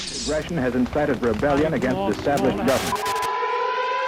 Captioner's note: television